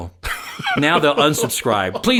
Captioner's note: laughing